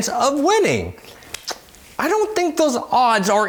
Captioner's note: clicks his mouth